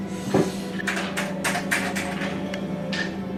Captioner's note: typing on keyboard